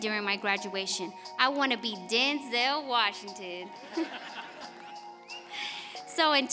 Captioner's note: laughs